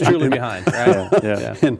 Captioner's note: laughing